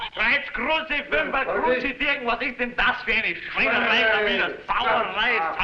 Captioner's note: shouting in foreign language